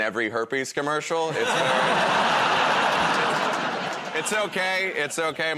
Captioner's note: laughter